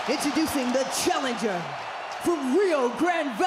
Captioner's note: audience cheering